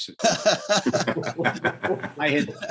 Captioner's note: laughter